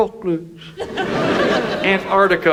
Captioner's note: audience laughs